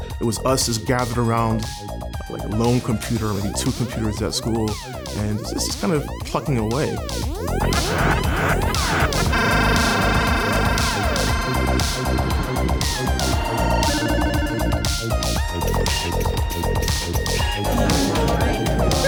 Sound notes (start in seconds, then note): 7.5 spaceship firing; 9.5 video game beeping; 13.7 video game beeping; 16.2 motor whirring